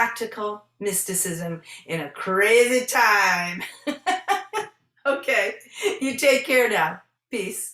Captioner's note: laughing